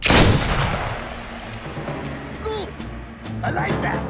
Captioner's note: gunshot blasts